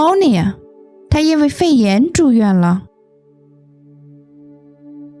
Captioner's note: explaining the example in Chinese